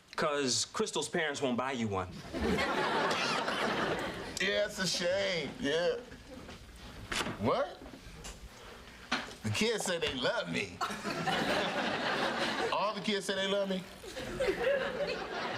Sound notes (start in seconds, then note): 3.0 coughs